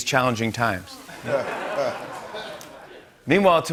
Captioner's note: laughter